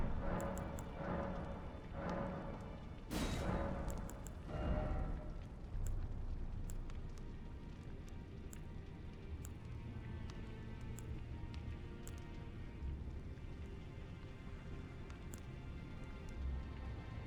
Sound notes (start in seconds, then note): none